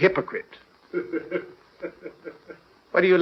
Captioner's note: laughing